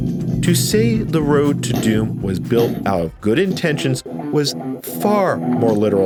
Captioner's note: DOOM making noises